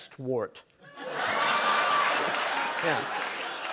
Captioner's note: laughter